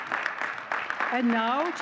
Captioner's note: audience cheering and clapping